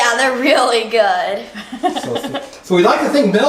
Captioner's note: laughs